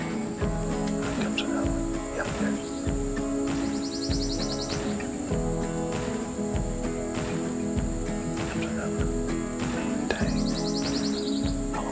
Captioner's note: whispering